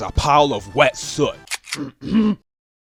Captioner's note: cocks gun